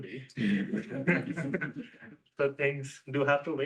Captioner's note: laughter